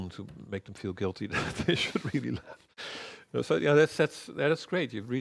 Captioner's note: laughs